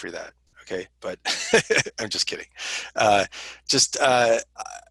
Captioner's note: laughter